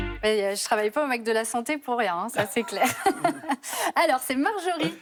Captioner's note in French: rires